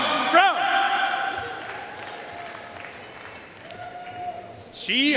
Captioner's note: audience cheering and applauding